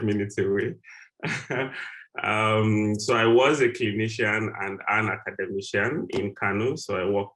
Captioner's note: laugh